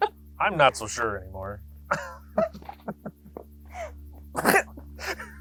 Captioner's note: both laughing